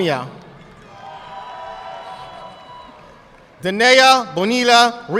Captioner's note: audience clapping